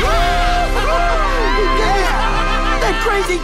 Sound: cheering

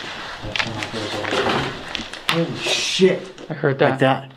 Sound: groan

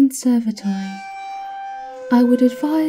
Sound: the door screeches against the floor in protest as it is pushed closed

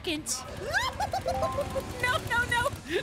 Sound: fearful Noises

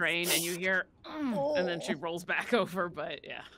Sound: groans

